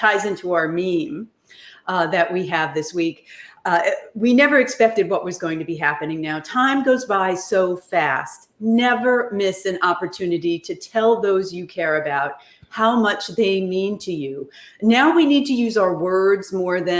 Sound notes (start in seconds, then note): none